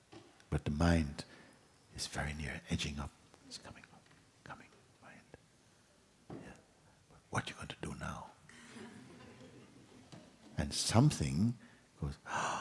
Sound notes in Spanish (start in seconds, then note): 3.7 susurrando